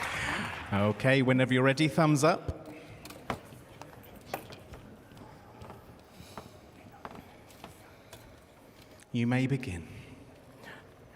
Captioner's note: applause